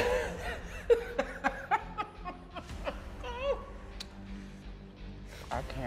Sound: intense dramatic music; laughing

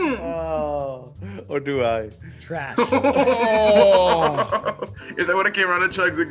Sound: laugh

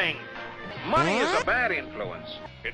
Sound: ball zips away

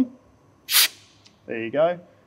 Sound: unit hisses

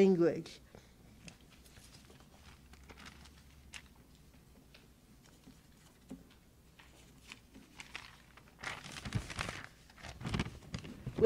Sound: paper sounds

